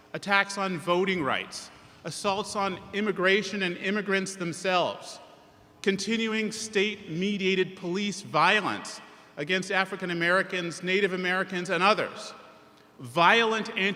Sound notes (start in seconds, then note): none